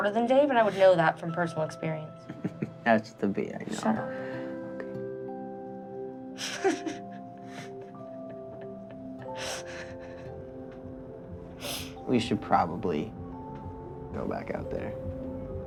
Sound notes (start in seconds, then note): 6.4 laughing